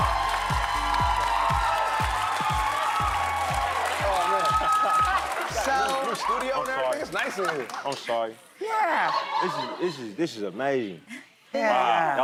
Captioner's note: applause